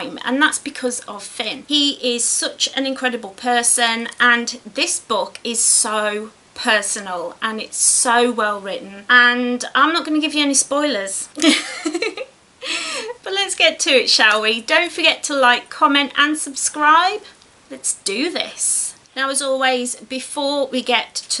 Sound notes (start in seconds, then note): 11.4 giggles